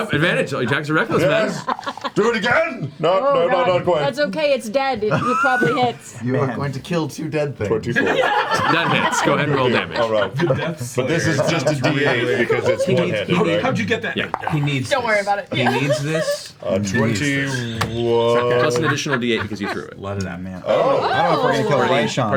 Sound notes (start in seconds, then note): 8.0 all laugh